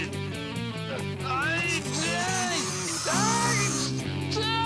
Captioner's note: babbles desperately